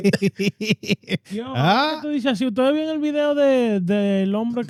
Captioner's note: laughs; speaking In Foreign Language